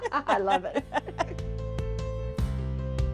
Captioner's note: laughing